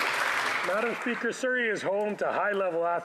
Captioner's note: applause